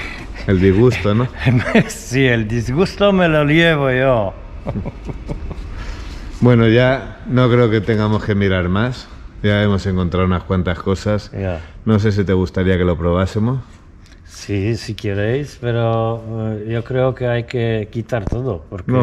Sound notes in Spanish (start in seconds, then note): 4.6 risa nerviosa